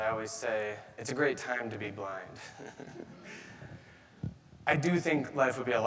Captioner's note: chuckles